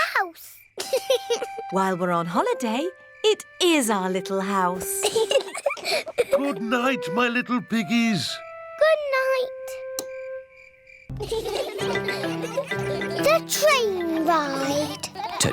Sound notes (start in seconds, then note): 0.8 george laughs; 4.7 both laugh; 11.1 laughter